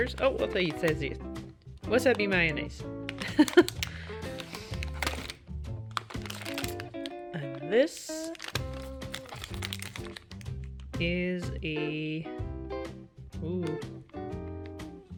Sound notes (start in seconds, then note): 3.2 laugh